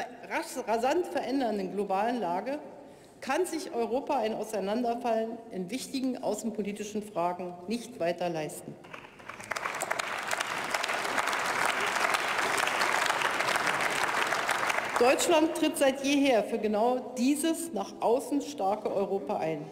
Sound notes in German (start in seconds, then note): 5.0 Beifall bei der CDU/CSU und der SPD sowie bei Abgeordneten der FDP